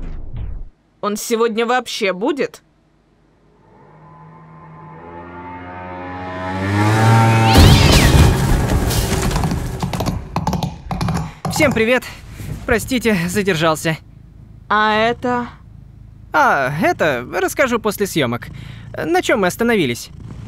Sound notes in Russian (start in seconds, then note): 5.9 звуки скутера; 6.8 вжжжжжжж; 8.6 колесо катится